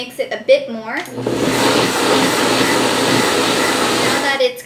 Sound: blender whirring

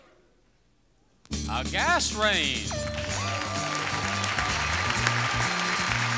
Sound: audience applauds

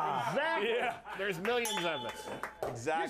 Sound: bell rings

